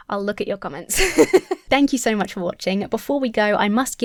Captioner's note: giggles